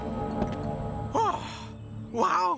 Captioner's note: sighs